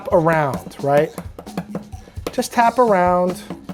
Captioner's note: egg thudding